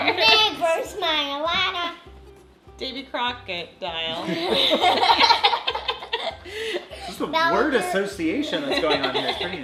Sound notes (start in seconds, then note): 4.2 laughing